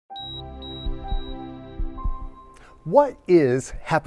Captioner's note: heart monitor beeping